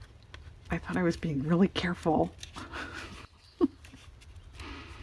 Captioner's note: laughs